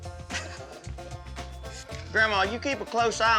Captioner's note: laughing